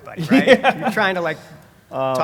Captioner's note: laugh